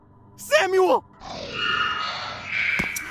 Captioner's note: Screech